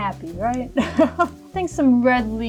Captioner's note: chuckles